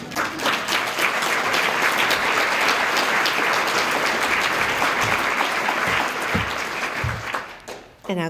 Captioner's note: applause